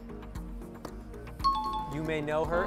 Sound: timer bell

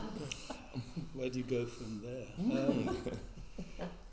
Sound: laughs

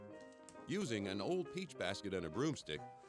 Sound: voiceover

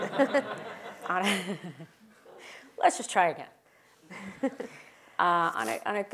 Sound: laugh

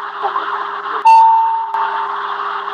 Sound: intercom chime

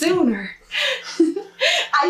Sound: giggles

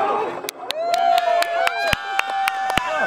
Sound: cheering

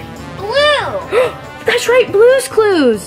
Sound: gasps

